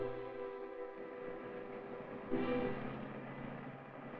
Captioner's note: vehicle approaches